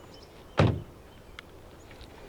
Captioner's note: closing door